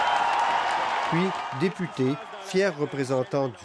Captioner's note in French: applaudissements